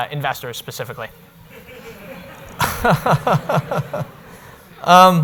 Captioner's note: laughing